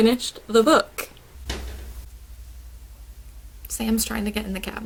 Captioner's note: cabinet slamming lol